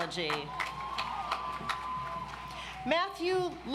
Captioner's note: audience applauds